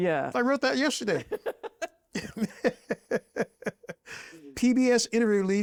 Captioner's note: both laugh